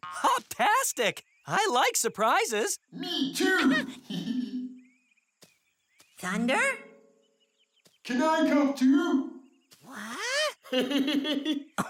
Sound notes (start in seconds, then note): 3.4 giggles; 10.4 giggling